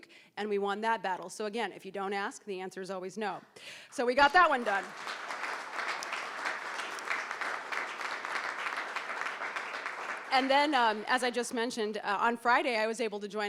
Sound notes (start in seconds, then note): 4.2 crowd clapping